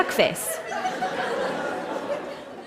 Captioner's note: laughter